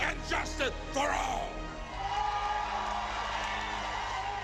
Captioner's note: cheering